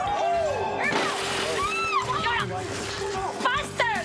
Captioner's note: glass shattering